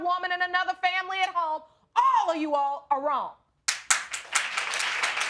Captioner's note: audience clapping